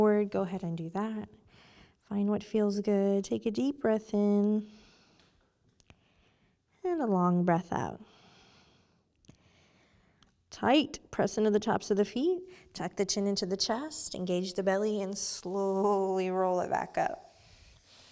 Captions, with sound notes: go ahead and do that. Find what feels good. Take a deep breath in. (inhales) And a long breath out. (exhales) Tight. Press into the tops of the feet. Tuck the chin into the chest, engage the belly and slowly roll it back up.